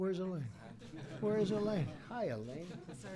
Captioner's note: laughter